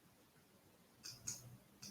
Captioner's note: mouse clicking